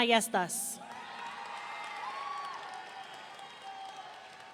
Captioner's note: audience cheering